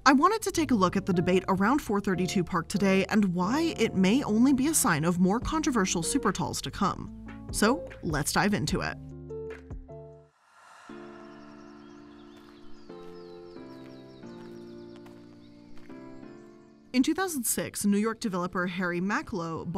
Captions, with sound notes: I wanted to take a look at the debate around 432 Park today, and why it may only be a sign of more controversial supertalls to come. So let's dive into it. (soft music) (birds chirping) In 2006, New York developer Harry Macklowe